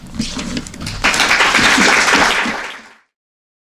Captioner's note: applause